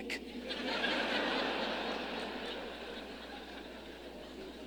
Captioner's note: audience laughing